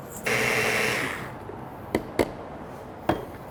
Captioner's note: whirring